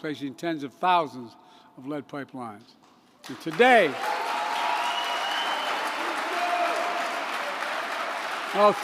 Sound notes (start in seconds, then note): 3.3 applause